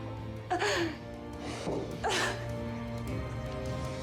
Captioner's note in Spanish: sollozos